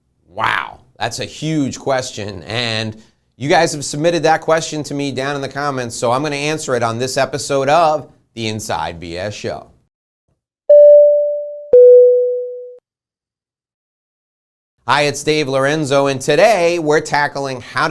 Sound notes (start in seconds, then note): 10.7 electronic tones